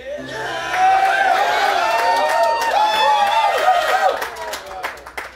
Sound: applause - Cheers

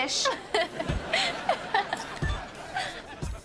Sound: laughing

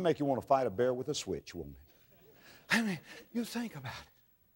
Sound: audience laughter

